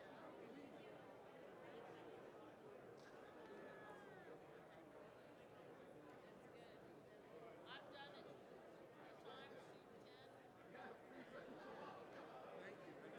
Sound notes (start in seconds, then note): none